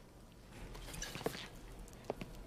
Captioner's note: bottle sloshes